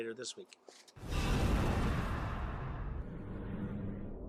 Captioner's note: whoosh